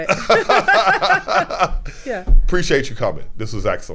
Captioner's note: both laughing